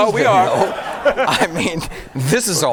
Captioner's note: audience laughing